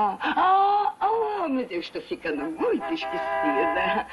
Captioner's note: horn honks